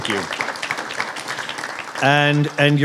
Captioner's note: applause